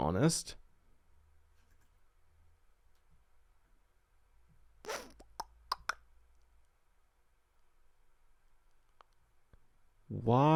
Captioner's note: clicks tongue